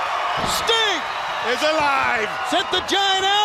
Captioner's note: crowd cheering